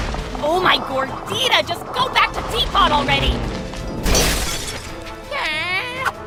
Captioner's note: none